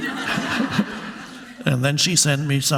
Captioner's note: audience laughing